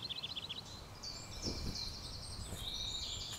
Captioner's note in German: Deckengeräusche